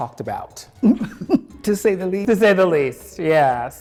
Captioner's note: chuckles